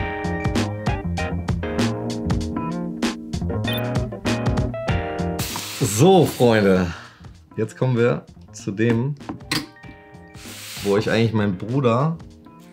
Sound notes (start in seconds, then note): 0.0 rhythmic upbeat music; 6.0 speaking foreign language